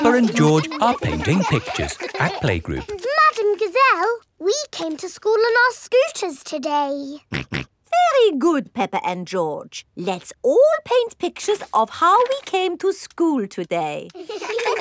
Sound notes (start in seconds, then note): 7.8 snorts